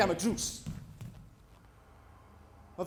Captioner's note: street ambience